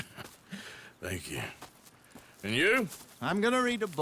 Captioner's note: laughs